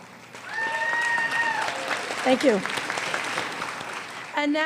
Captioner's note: audience member cheers